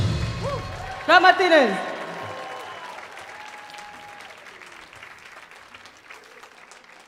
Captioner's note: audience applauding